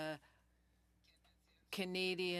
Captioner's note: speaking French